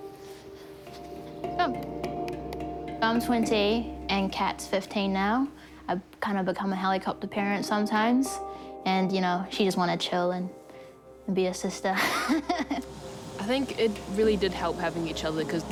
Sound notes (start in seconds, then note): 12.0 laughs